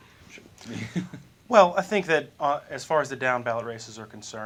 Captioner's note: laughter